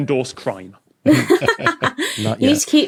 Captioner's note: laugh